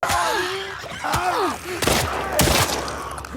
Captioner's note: characters shouting and screaming; gun firing